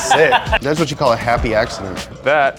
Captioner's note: laughs